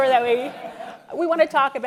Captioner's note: laughter